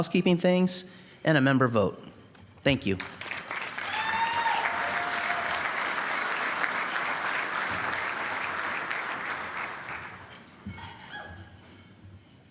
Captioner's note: applause